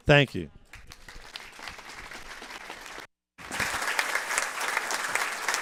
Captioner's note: applause